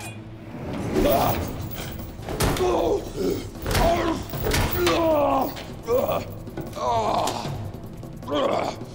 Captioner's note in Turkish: Dövüş sesleri; Müzik - Hareketli